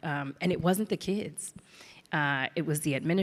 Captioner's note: none